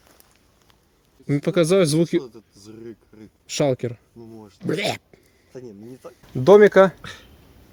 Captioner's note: minecraft shulker sound